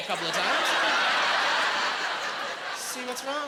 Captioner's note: laughing